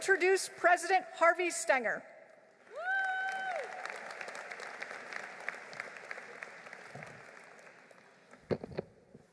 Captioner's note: applause